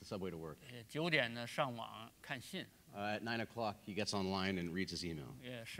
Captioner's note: speaking in Chinese